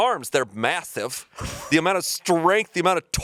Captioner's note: chuckling